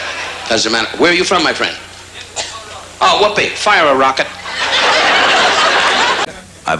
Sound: laughter; laughter

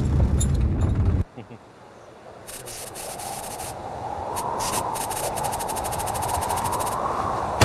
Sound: satellite hissing; wind whooshing

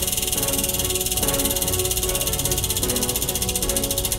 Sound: wheel spinning

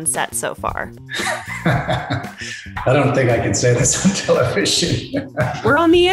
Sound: laughs

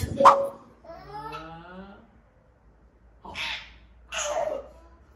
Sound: child-directed speech

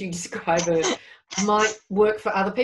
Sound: both laugh

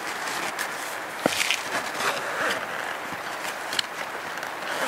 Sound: sound of zipper

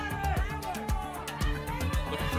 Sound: audience shouting games

